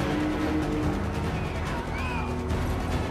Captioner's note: screaming